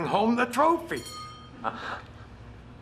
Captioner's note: ringing of bell